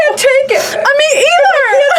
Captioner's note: pat